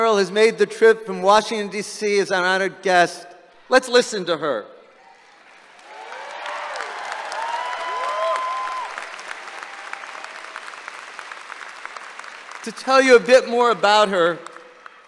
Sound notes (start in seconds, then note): 5.5 applause and cheering